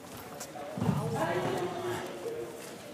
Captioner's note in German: Stimmengewirr